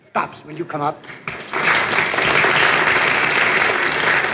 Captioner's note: applause